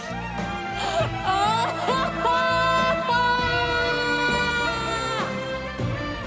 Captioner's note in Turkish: Ağlıyor